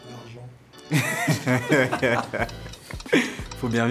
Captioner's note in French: Rires